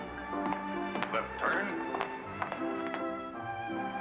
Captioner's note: boot steps